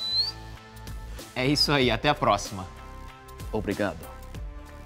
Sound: in foreign language

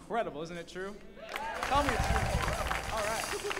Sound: audience cheers and applauds; laughs

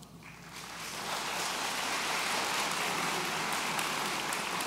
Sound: audience applauds

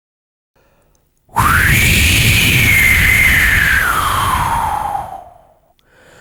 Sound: whoosh

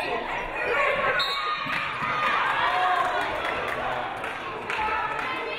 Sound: referee blows whistle

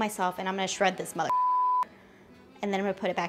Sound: beep

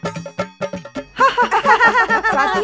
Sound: laughs

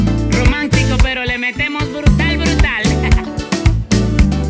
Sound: laugh

